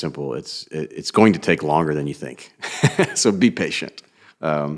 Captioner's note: laughs